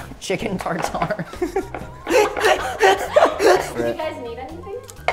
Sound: laughing

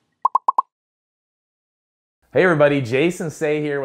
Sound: popping

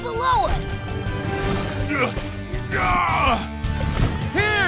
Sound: grunting

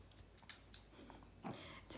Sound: sniff sniff

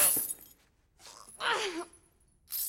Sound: grunts

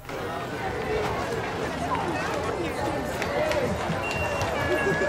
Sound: background chatter

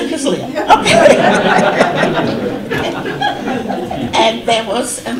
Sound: audience laughter

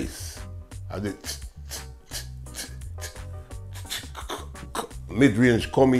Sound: making sound effects

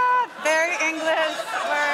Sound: laughter

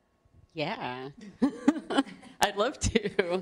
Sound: laughter

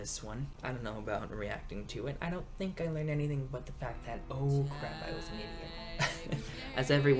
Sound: laughs

